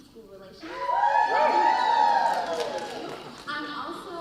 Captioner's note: audience cheering